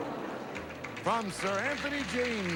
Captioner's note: audience applauding